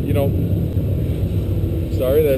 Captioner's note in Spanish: motocicletas que pasan